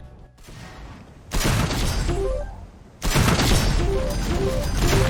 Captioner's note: gun fires